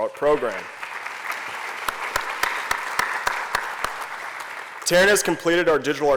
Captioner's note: applause